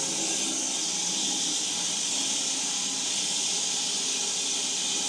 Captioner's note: log saw whirring continues